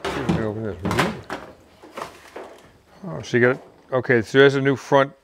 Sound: clanking drowns out voice

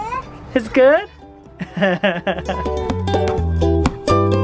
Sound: chuckles; pleasant music

